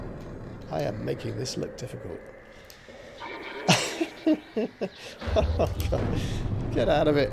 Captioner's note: laughter